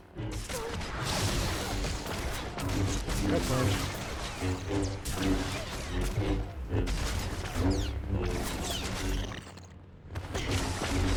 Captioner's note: gunshots